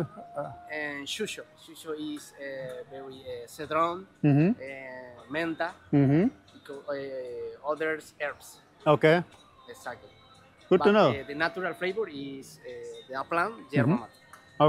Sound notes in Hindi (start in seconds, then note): 0.2 स्पेनिश में बोलते हुए; 11.3 स्पेनिश में बोलते हुए